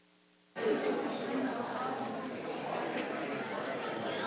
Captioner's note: group chattering